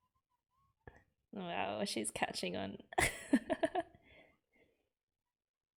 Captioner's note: laughs